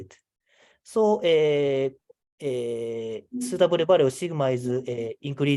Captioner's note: computer chimes